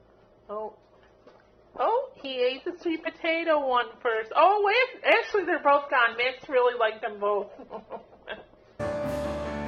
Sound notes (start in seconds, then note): 7.5 laughing